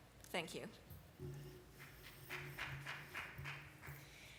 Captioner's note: applause